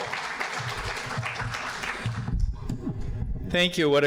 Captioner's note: audience applauding